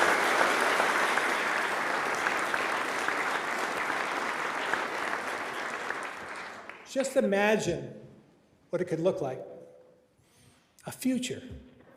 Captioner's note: applause